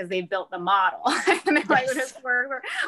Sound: laughs

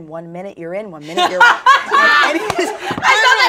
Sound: laughs

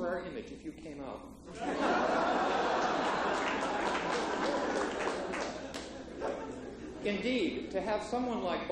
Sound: laughter

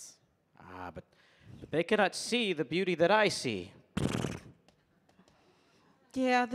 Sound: neighs

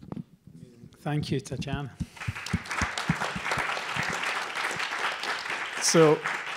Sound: applause

